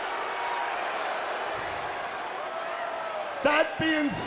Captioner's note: crowd cheering